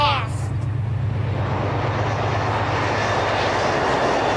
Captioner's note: train zooms; train whooshes